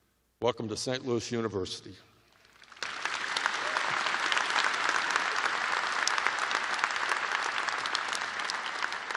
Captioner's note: applause